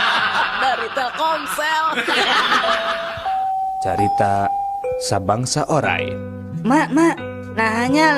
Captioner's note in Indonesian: tertawa